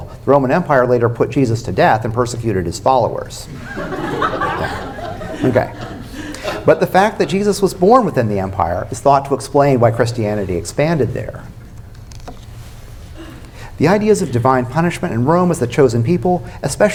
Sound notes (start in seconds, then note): 3.5 laughter